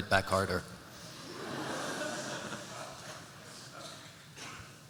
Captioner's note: laughter